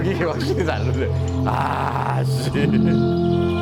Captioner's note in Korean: 감탄